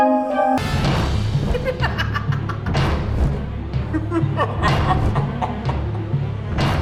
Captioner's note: evil laughter; dark music continues